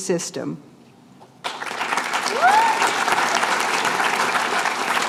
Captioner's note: applause